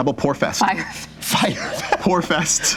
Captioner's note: laughing